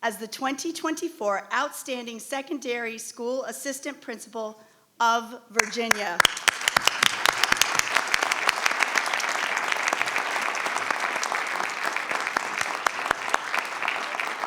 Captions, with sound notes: as the 2024 Outstanding Secondary School Assistant Principal of Virginia. (crowd clapping)